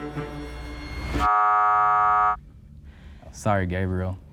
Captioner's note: buzzer sounds